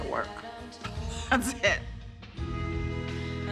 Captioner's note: laughs